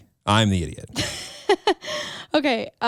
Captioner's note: chuckles